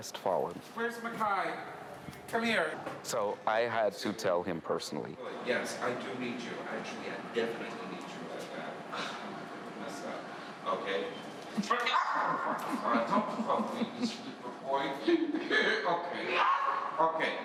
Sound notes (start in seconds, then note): 11.4 laughs; 13.0 screams